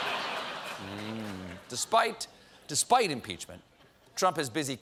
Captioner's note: laughter